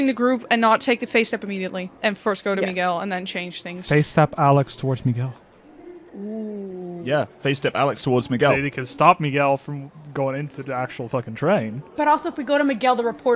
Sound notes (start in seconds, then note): none